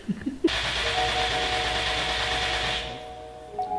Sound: laughs; engine turns over

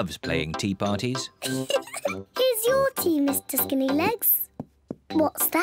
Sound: giggles

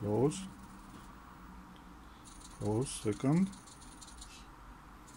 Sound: servos; servo

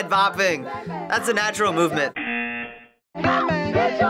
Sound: buzzer

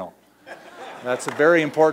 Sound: laughing

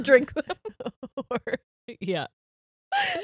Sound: both laughing

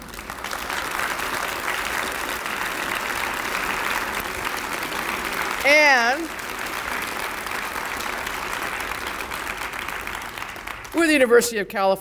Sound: audience applause

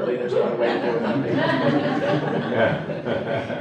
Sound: laughter

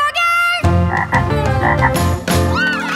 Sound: croaking

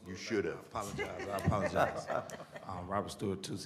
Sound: laughter

